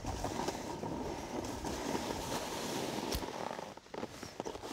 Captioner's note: snow crunching